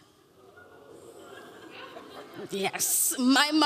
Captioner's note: audience laughing